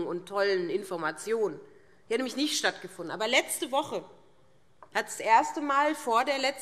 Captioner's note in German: none